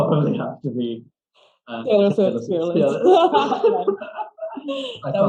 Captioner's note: both start laughing